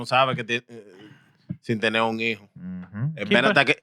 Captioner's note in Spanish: Hablando en idioma extranjero